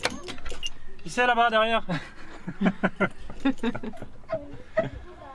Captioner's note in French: rires